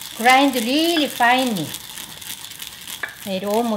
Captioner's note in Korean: 참깨 가는 소리